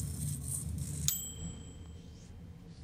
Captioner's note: gritty shaving noises; metal clangs; bell dings